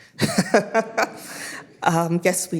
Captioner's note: everybody laughing